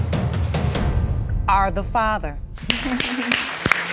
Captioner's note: audience applauding